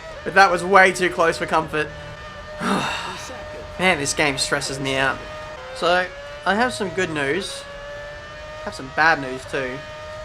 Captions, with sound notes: but that was too close for comfort (sighs) man this game stresses me out so I have some good news I have some bad news too